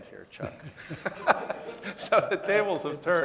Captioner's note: audience laughing